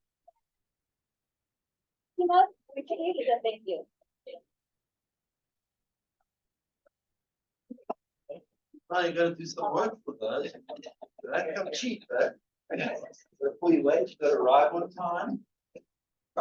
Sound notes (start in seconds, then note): 3.1 speaking faintly; 11.6 speaker speaking faintly